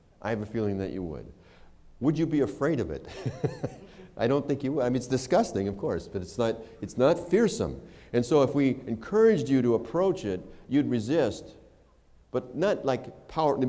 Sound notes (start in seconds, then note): 3.0 laughter